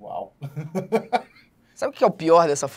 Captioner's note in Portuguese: risadas